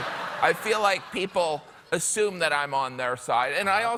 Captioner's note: laughter